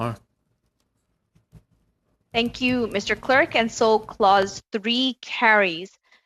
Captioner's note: speaking French